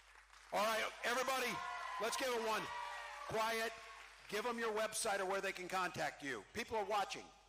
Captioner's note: cheering